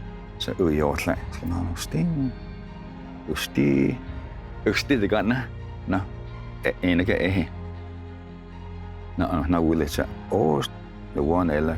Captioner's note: tells story in Cherokee language